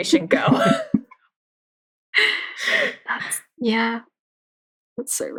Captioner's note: laughs